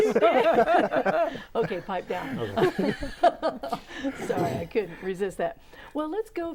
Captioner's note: laughing